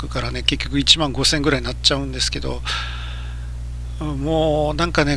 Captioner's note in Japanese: ため息